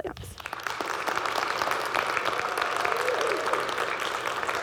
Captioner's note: audience clapping